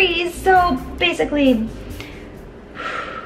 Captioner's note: exhales